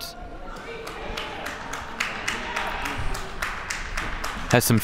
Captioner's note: crowd clapping